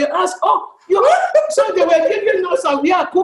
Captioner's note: laughter